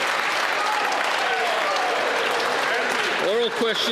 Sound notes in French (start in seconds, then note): 2.0 applaudissements